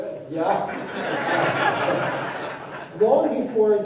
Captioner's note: laughter